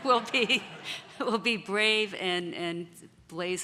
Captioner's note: laughter